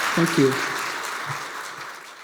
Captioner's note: applause